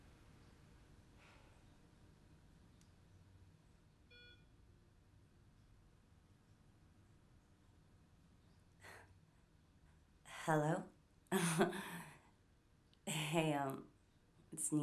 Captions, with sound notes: (phone beeping) - Hello. (laughing) Hey, it's Nina.